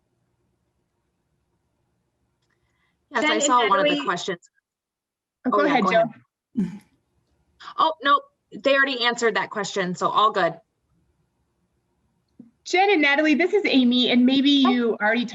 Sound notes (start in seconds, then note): 6.5 clears throat